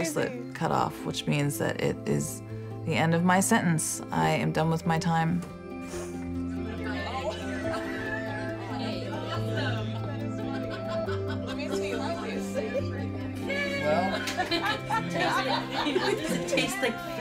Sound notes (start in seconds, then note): 5.5 indistinct chatter, laughter